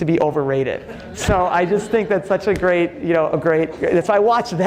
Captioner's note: audience laughing